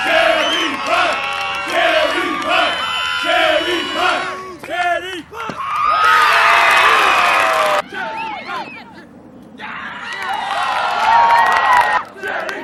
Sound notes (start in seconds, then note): 0.0 band cheering and encouraging jumpers